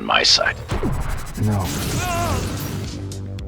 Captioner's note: evil genocidal whoosh